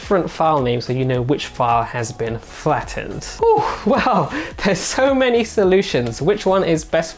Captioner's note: laugh